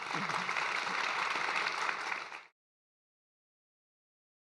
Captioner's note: audience applauding